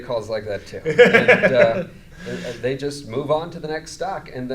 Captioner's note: laughs